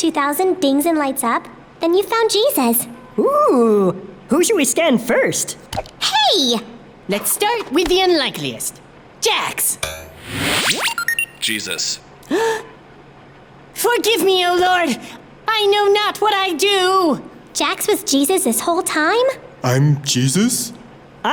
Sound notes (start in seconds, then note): 9.9 electronic noises; 12.2 gasps